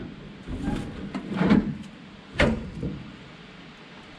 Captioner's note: metal creaking